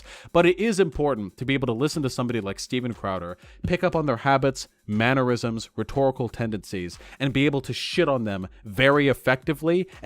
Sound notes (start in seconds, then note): none